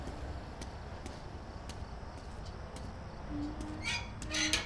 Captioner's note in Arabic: صرير البوابة